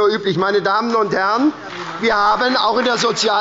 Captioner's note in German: Beifall bei der SPD und der FDP